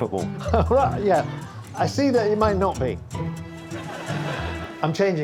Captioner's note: laughs